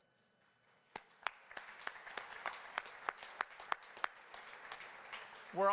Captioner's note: applause